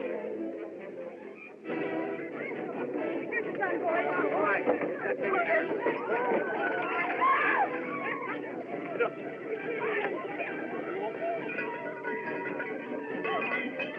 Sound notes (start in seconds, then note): 7.1 woman Screams